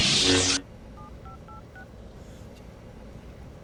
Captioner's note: number dialing